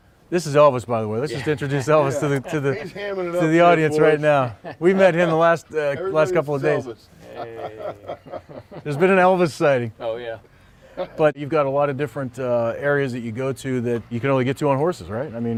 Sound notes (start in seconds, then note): 10.8 group laughing